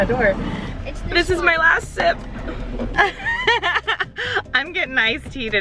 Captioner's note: laughing